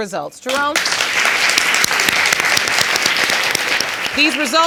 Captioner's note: audience applauding